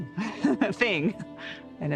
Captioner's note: laughing